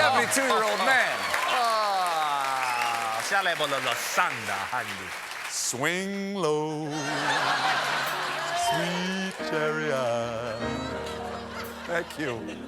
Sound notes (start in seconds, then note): 0.0 piano riff; 4.9 speaking in tongues